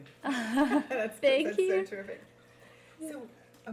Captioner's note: laughing